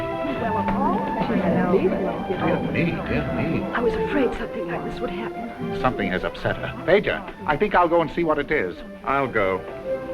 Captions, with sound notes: (crowd chattering) - I was afraid something like this would happen. - Something has upset her, Fedor. I think I will go and see what it is. - I'll go.